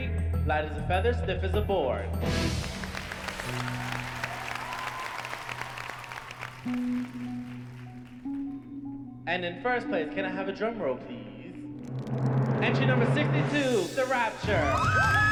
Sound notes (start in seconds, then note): 2.5 cheers and applause; 11.8 drum roll